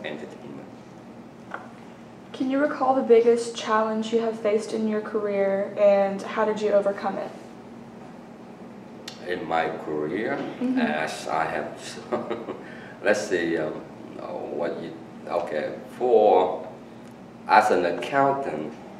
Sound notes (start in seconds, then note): 11.9 laughs